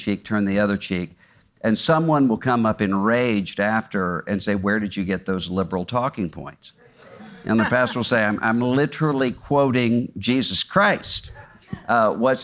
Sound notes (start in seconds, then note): 7.0 audience laughs